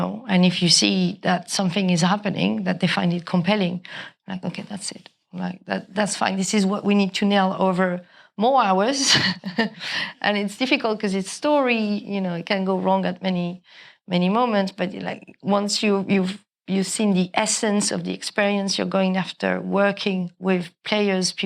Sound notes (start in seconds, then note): 9.1 chuckles